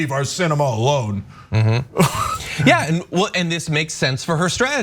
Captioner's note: laugh